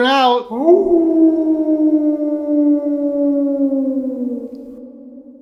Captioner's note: wolf Howl